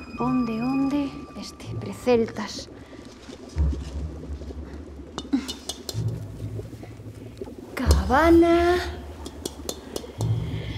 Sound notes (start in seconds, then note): 5.1 heavy breathing